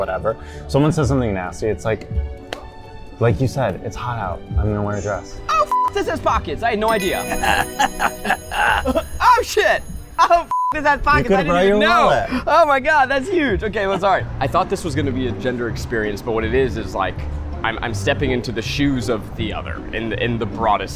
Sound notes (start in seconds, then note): 5.6 beep; 10.4 beep